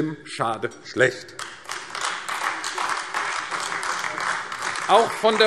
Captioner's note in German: Beifall AfD